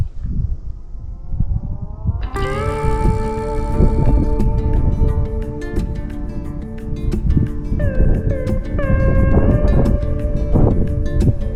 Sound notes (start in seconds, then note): 3.3 wind blowing; 5.4 upbeat music